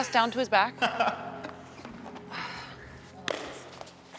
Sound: Chad laughs

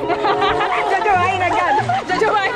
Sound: laughing

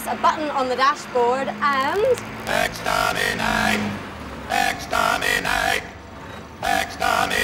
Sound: Dalek voice

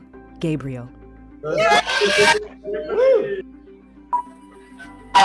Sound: cheering

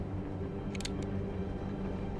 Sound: gun cocks

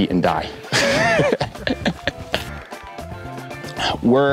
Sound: laughing

